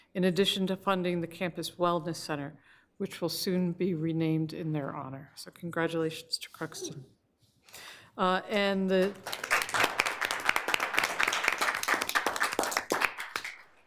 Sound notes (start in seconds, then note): 8.9 all applauding